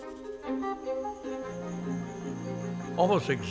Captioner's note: chirping